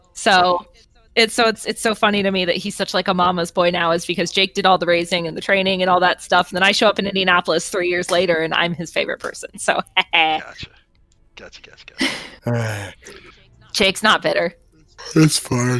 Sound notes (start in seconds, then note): 12.0 sigh